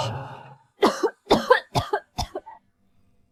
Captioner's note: cough cough cough